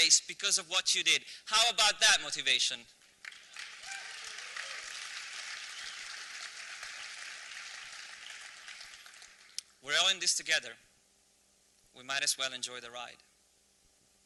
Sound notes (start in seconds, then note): 3.1 applause